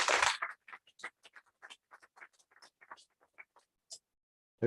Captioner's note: applause